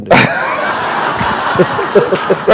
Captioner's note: laughter